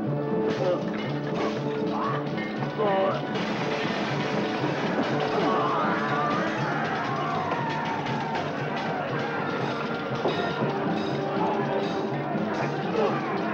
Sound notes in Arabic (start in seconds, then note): 0.2 اصوات شجار; 3.0 اصوات المعركة